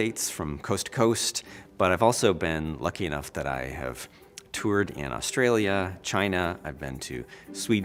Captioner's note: none